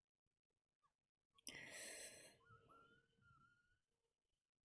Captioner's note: sharp intake of breath